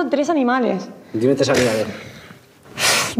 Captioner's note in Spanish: resopla